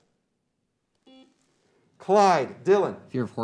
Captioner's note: beep